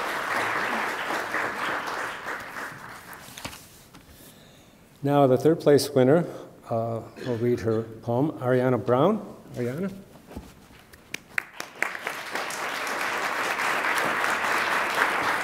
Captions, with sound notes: Now the third-place winner will read her poem. Ariana Brown. Ariana? (attendees applaud)